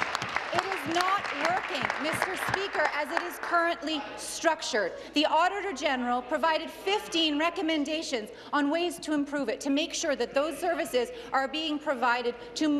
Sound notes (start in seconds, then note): 4.2 applause